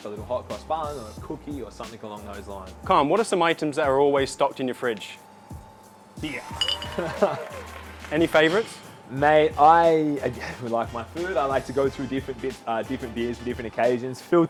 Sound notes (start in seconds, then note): 6.9 chuckles; 6.9 audience cheering